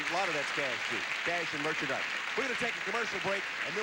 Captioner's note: audience applauding